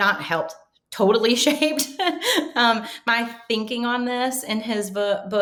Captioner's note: laughing